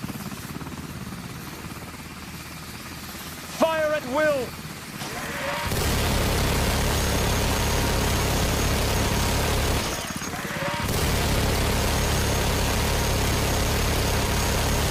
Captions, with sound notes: - Fire at will. [Gunshots]